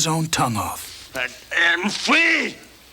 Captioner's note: spits